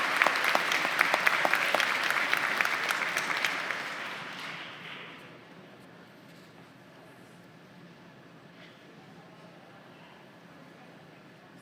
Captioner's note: applause